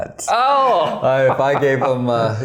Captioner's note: laughing